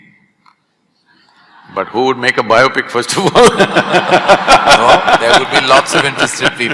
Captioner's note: laughter; laughter